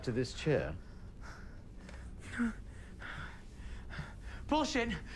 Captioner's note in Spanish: Respirando profundamente